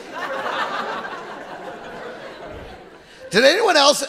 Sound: audience laughing

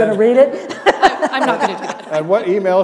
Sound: laughter

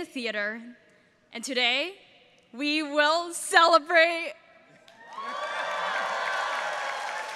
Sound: all cheering

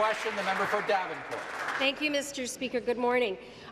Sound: applause

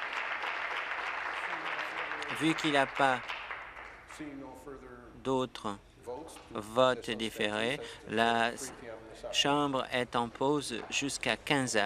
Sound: applause

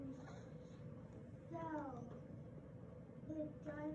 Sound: student chatting

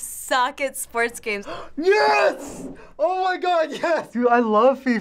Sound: gasping

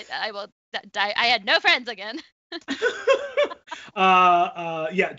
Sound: laughs

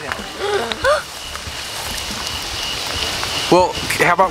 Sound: boys gasp

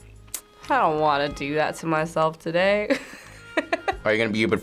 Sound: laughs

